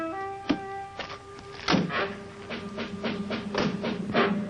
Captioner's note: door slams; dramatic music